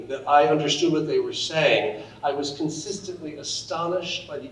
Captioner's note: none